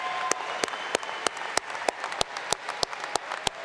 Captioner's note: applause